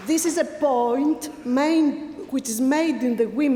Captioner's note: applause